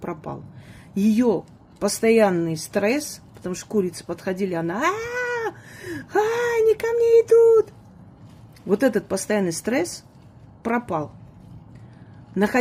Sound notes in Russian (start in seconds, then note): 5.6 тяжело вздыхает